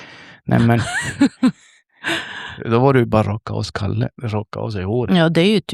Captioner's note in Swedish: skratt